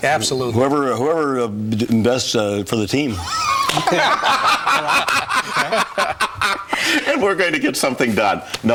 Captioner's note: laugh